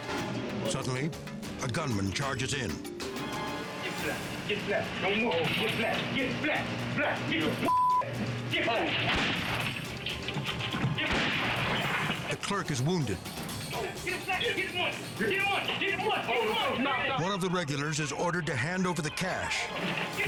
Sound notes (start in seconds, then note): 7.6 beep; 10.1 gunshots ring